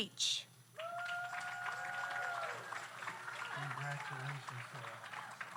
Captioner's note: audience applauds; audience cheers